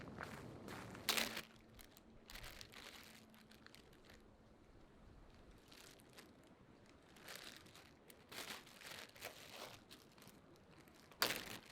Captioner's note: plastic bag opens